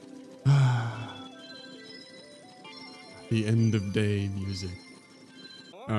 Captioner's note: sigh